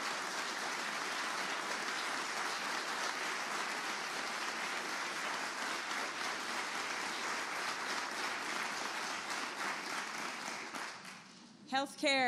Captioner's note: applause